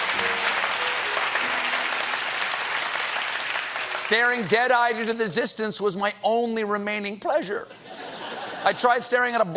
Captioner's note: applause